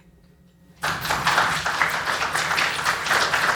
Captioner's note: applause